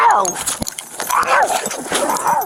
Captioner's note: screaming